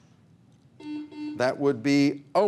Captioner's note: buzzer buzzes